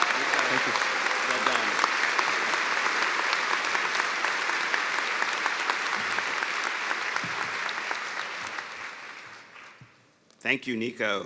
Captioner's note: cheers and applause